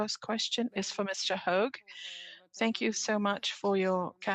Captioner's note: speaking French